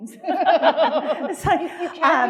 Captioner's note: attendees laughing